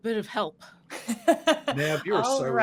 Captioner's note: laughing